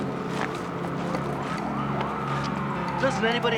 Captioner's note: distant sirens wailing